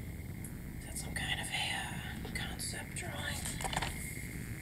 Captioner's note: whispering